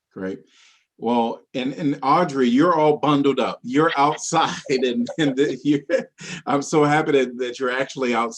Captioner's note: laughing